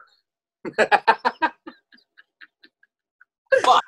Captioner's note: laughs